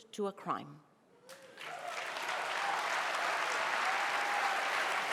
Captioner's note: audience applauding